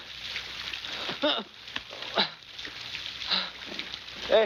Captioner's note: grunting